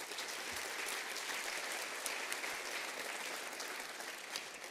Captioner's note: applause